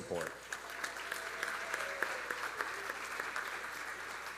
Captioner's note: audience applauding